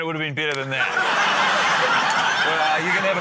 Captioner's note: laughter